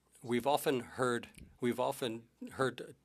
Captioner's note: speaking French